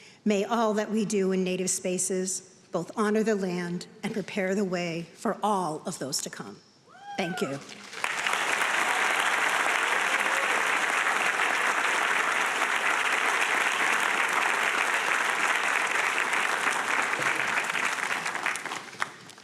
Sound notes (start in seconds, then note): 8.1 audience applauding